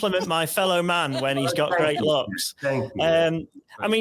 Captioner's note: chuckling